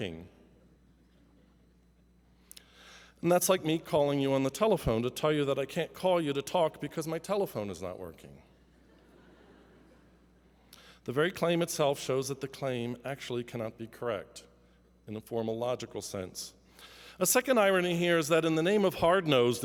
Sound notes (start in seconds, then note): 8.8 laughter